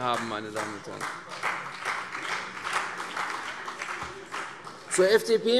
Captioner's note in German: Beifall CDU und vereinzelt BÜNDNIS 90/DIE GRÜNEN